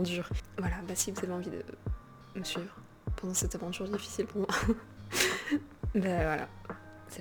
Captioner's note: laugh